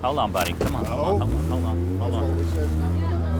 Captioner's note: engine revving